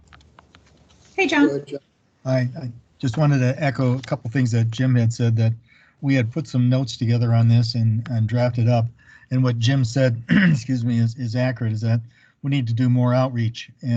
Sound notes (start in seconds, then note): 9.6 clears throat